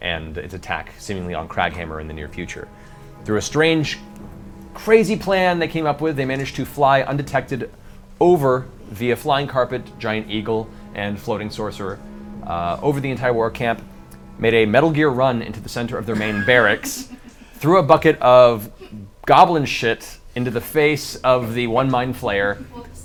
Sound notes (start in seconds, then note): 16.1 all laugh